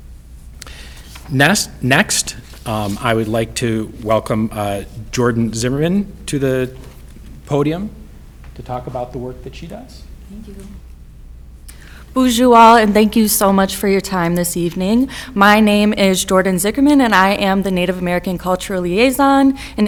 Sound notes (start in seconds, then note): 12.2 speaks in foreign language